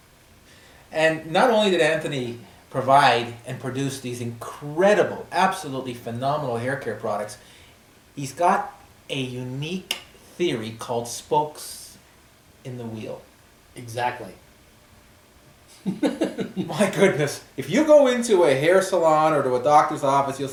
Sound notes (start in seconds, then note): 15.7 laughs